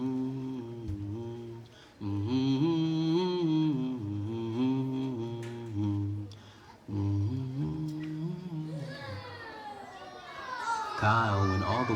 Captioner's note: humming song